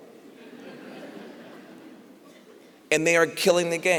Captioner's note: laughter